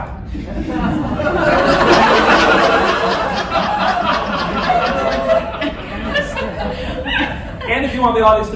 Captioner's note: laughter